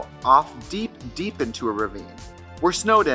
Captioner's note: none